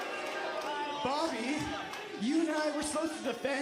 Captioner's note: crowd cheering